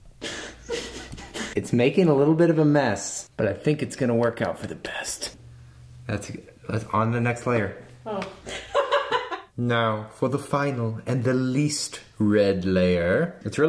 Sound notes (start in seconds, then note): 0.2 giggling; 8.4 laughing